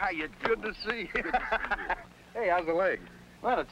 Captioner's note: laughs